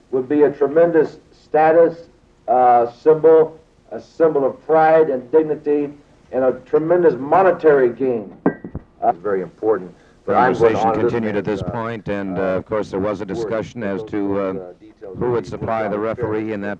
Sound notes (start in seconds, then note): 8.4 kitchenware clinking distantly; 10.2 people chattering distantly